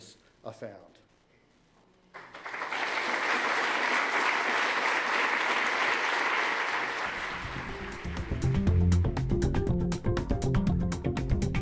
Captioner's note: applause